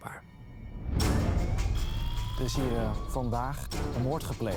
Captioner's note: siren